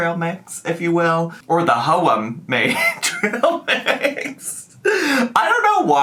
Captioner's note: laughs